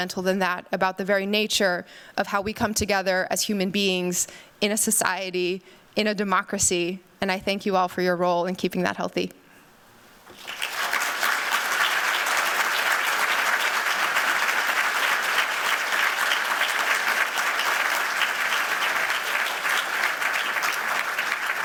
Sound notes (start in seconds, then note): 9.6 applause